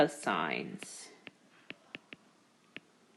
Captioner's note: keyboard Tapping